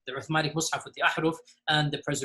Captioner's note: speaks in foreign language